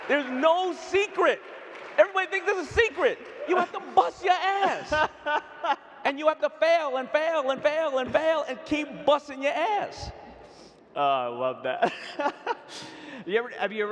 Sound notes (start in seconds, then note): 3.4 laughing; 11.8 laughs